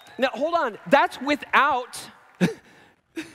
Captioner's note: laughs